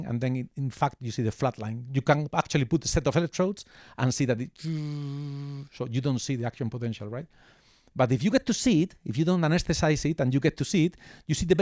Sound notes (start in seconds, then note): 4.7 imitates electrical buzzing